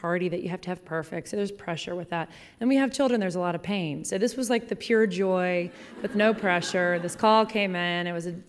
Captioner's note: laughing